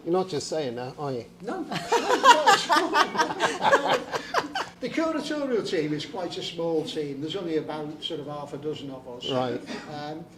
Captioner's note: laughter